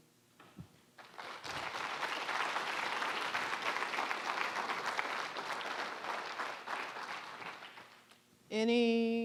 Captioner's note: applause